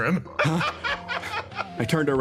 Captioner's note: laugh